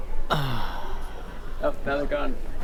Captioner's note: sigh of relief